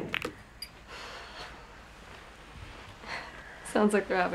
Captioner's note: balls breaking; Claire sighs